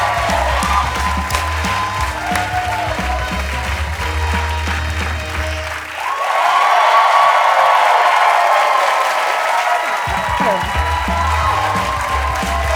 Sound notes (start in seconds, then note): 5.8 cheers and applause